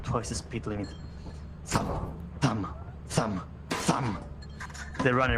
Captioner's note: thum! Thum! Thum! Thum! THUM!